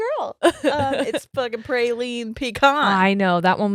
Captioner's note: laughing